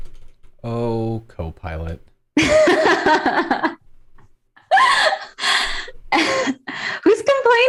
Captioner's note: laughter